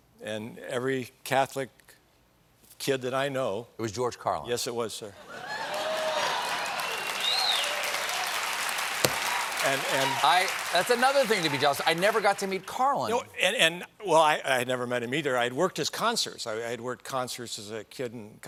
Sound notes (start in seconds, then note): 5.5 applause